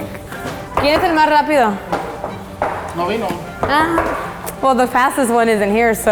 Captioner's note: speaking foreign language